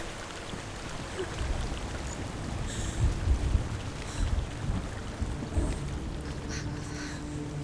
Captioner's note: anxious breathing